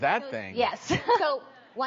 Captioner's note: panel member laughs